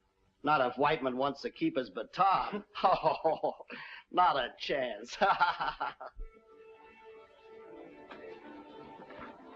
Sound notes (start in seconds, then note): 5.1 laughs